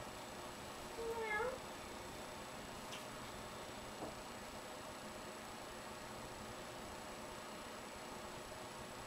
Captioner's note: Brodie the cat meows; human meows again; Brodie and human meow some more